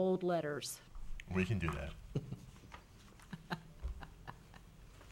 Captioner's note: chuckles